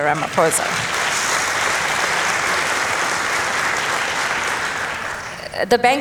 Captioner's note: applause